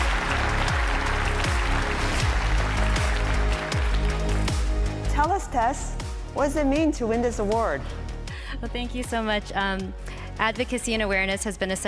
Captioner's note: applause